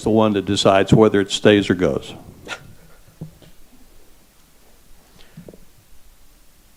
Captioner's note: grunting